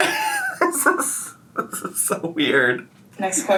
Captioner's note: laughs